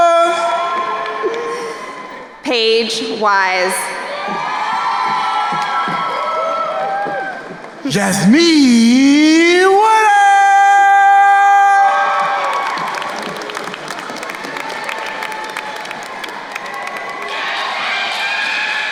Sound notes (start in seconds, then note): 3.9 crowd cheering; 11.7 crowd cheering and applauding